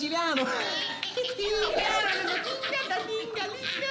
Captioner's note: everybody laughing